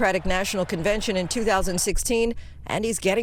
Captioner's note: applause